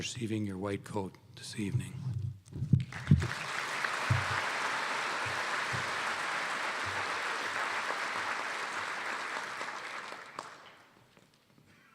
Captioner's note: applause